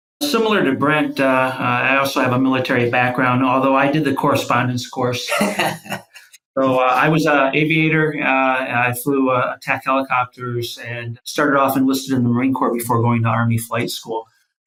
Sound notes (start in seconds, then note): 5.2 laughs